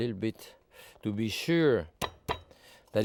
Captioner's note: knife thudding